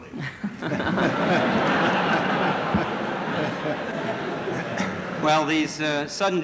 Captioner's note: laughter